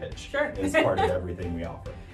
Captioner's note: laughs